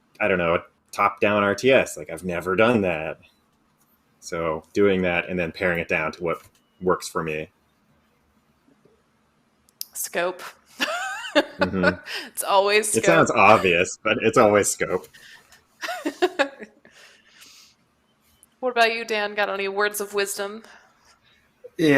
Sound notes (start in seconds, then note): 10.9 laughs; 16.5 laughs